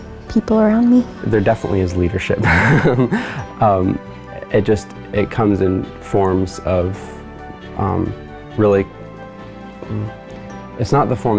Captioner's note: laughs